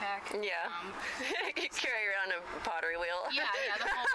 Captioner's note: laughs